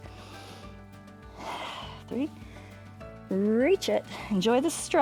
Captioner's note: inhales and exhales